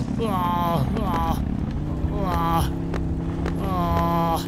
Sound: weird motor SFX

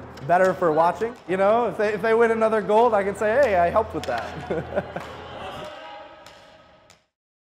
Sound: laughs

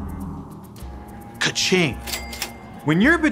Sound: cash register dings

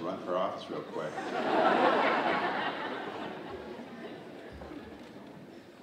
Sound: audience laughing

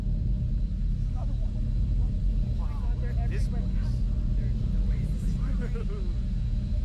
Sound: excited chatter

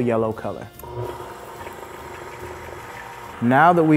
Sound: blender whirring

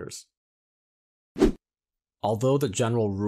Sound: air wooshes

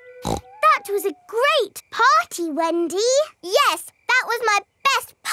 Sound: snorts

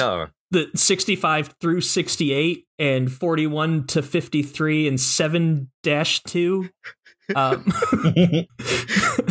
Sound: laughter

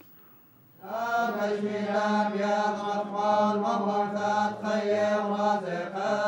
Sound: chanting in a foreign language

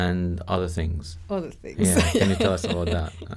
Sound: laughs

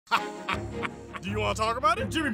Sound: laughing

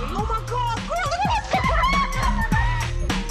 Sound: girls screaming

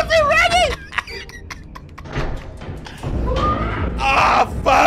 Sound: character screams; youTuber laughing

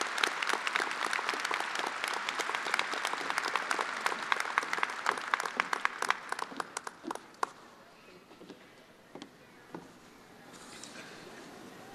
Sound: attendees applauding

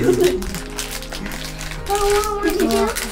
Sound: laughs

